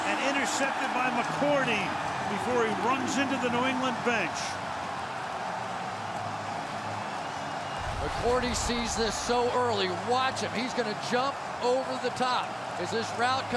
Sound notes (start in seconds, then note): 5.0 cheering